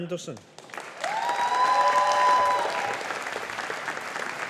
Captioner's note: audience applauding